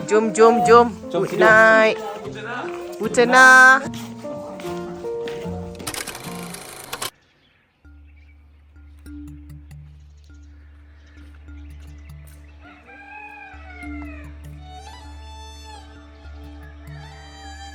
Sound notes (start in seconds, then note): 3.0 speaking German